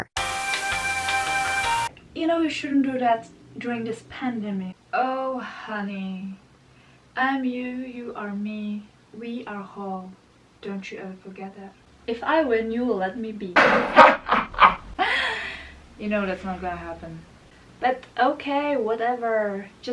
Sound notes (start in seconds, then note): 13.6 me 2: Evil laugh; 15.0 gasp